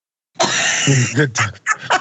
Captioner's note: laugh